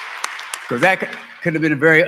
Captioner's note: applause